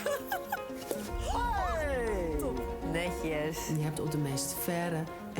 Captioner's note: pop